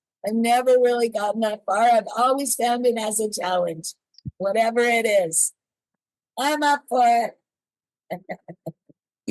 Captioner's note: laughs